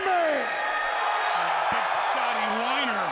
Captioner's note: crowd cheering